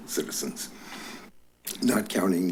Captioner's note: clicks tongue